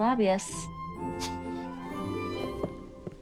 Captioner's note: sniggers